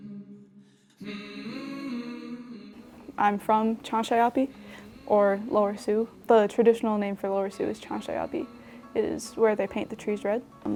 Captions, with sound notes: (soothing humming) I'm from Cansa'yapi or Lower Sioux. The traditional name for Lower Sioux is Cansa'yapi. It is where they paint the trees red.